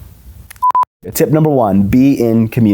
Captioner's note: alarm beeps